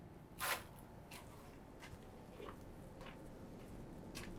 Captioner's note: shuffling